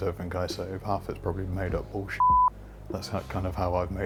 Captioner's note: beep